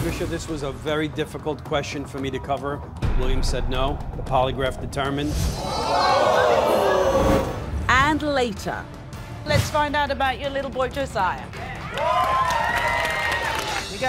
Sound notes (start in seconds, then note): 5.7 audience gasping; 11.3 audience clapping